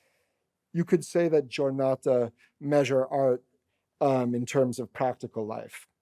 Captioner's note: italian